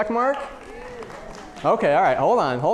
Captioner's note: audience clapping